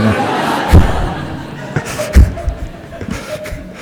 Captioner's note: laughter from the audience